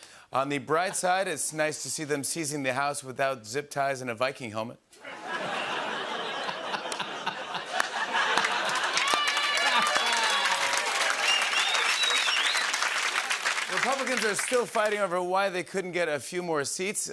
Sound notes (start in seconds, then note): 4.7 laughter, ohhs, and applause; 7.4 cheering; 11.0 whistling